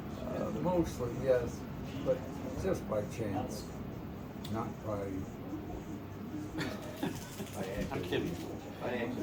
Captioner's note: laughter